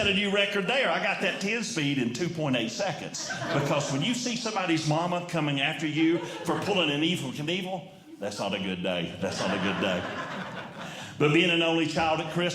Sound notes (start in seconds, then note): 9.0 audience Laughing